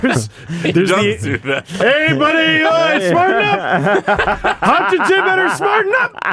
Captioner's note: Don Cherry impersonation